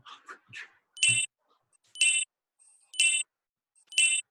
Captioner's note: beeps